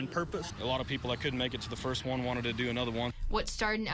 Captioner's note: siren